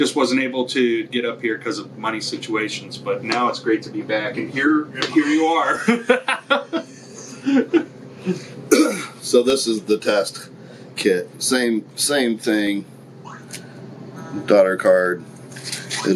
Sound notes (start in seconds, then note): 5.1 laughs